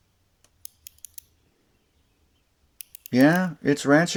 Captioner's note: ratchet sounds